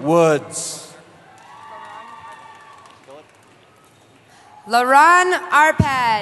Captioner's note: cheering